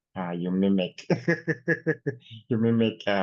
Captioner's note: laughs